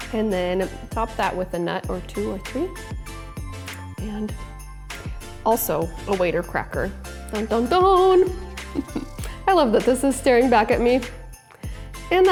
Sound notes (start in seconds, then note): 7.6 humming